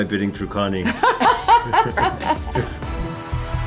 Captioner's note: laughing